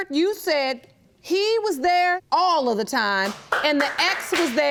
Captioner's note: loud clapping from audience